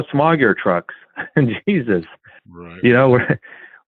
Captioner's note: laughs